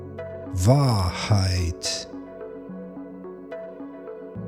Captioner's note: german